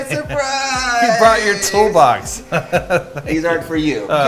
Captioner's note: laughing